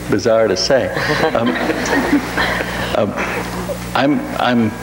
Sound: audience laughs

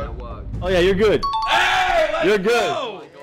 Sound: chiming; cheering

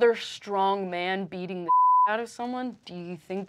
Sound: beeping

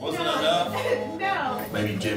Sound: laughing

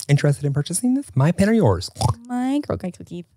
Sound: snorts

